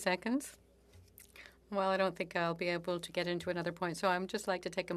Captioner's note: speaking French